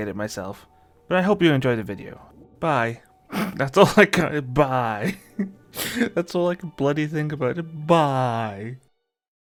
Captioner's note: snicker